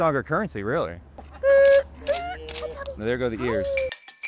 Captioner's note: camera clicking